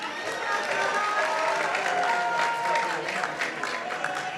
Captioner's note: participants applauding